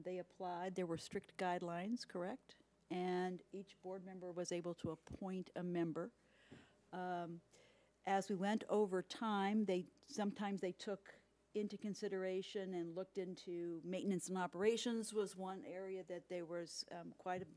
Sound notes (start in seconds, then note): none